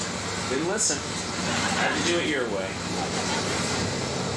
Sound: audience laughing

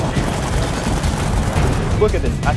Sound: cameras snap

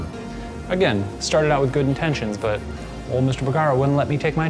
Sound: none

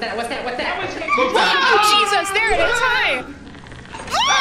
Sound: bug buzzing, others screaming; scream

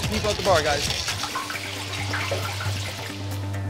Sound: oil spluttering; tense music

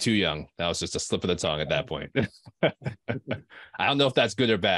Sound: chuckling

